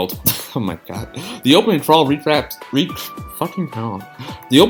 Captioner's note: sigh